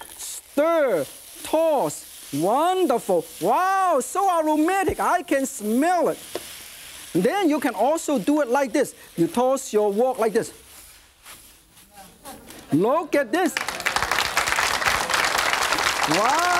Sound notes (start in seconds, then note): 12.0 audience murmurs; 13.4 audience claps